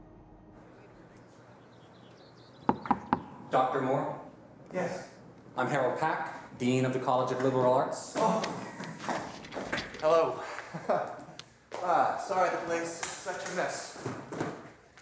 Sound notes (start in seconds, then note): 2.6 man knocking; 8.2 laughs